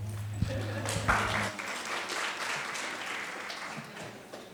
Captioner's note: applause